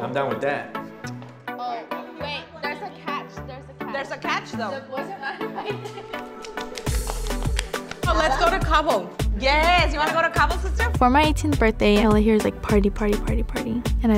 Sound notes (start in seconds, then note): 5.2 laughs; 7.0 upbeat music